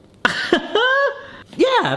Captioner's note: laughing